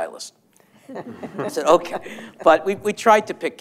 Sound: laughter

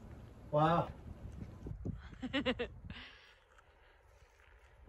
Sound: laughters

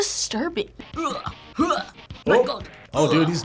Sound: groans

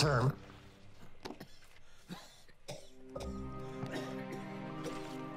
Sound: George coughing

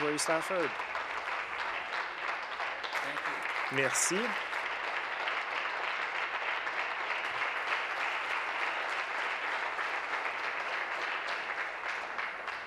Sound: applause

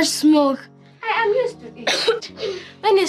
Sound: coughs

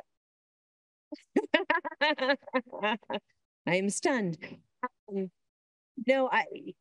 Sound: laughs

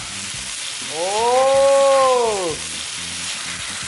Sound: pan sizzles

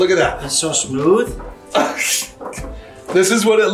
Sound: laughing

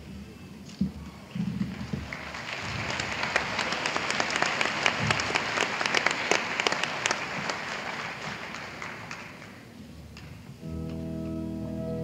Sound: applause

